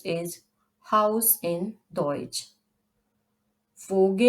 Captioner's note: in German : haus